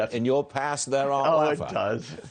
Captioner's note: laughter